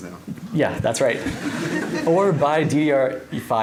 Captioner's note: laughter